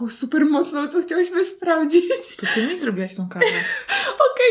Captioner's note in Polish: śmiech